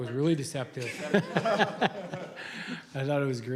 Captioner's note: laughter